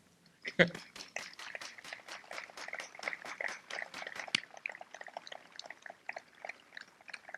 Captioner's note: laughs; appluase